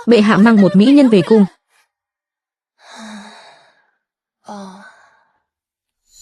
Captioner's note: thở dài